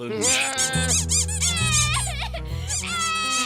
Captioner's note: sobbing